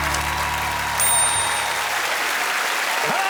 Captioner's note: bell rings